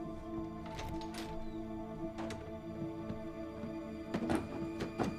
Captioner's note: door latch clicks